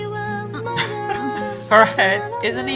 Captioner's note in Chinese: 轻笑